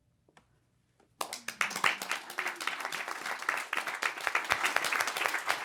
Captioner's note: audience applauding